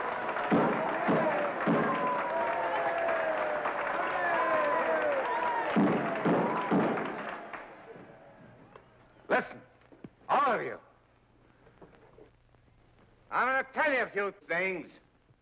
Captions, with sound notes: (gavel thuds) (audience cheers and applauds) (gavel thuds) - Listen! All of you! I'm gonna tell ya a few things!